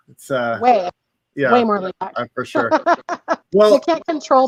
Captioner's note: laughs